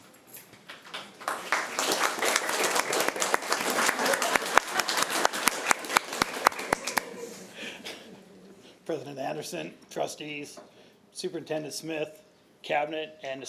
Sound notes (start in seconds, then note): 0.7 applause